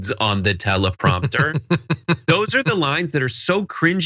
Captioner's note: laugh